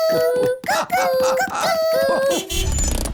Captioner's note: horn honks